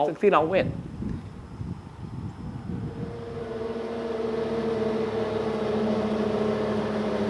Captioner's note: wind blows, traffic sounds